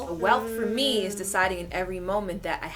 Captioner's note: none